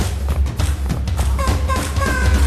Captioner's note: vocalizing